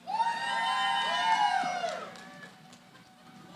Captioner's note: cheering